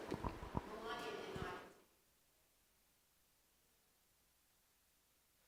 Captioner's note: speaking away from mike